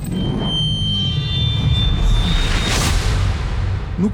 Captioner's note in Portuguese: zunido agudo